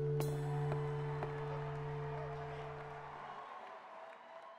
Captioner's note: loud applause